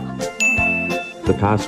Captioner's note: ding sound effect